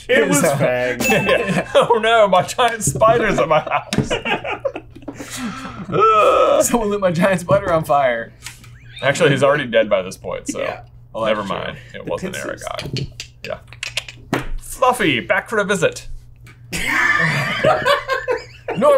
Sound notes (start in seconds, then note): 1.0 bell ringing; 3.1 laughing; 13.3 clicking; 16.7 laughing